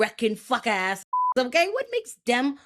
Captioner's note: beep